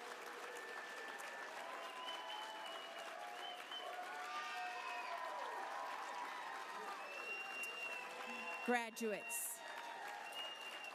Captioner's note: applause